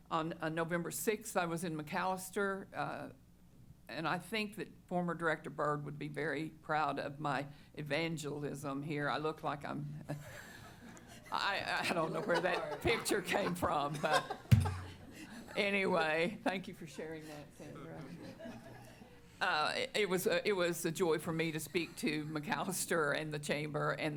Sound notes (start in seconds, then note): 11.9 chuckling; 14.4 laughter